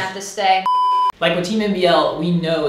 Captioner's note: beep